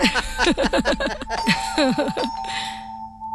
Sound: doorbell ringing

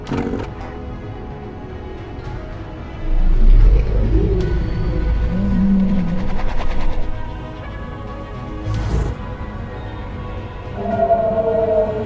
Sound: Gallimimus Sounds; mosasaurus Sounds

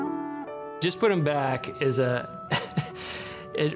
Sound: gentle music; laughs

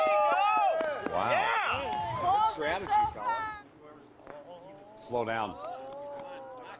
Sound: cheering and applause

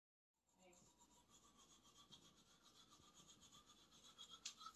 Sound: brushing teeth

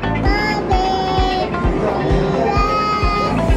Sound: babbling

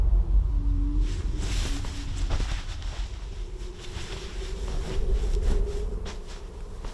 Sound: wind howling; bedding rustling

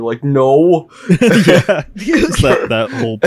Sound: everyone laughs

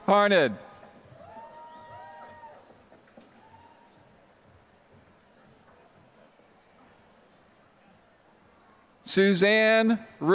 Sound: applause

